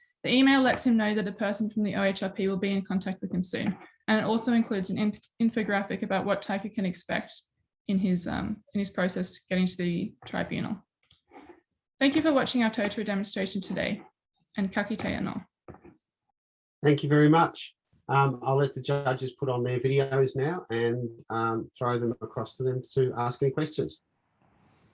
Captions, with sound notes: The email lets him know that a person from the OHRP will be in contact with him soon, and it also includes an infographic about what type he can expect in his process getting to the tribunal. Thank you for watching our Totara demonstration today and (speaks in foreign language) - Thank you very much. I'll let the judges put on their videos now and throw them across to them to ask any questions.